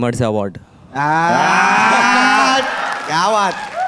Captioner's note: applauding